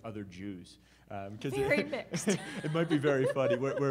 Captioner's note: laughs